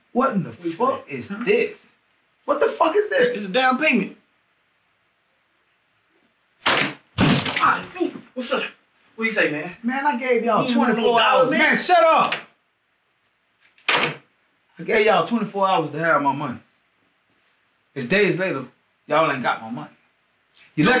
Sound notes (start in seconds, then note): 6.4 case clatters; 13.6 gun clatters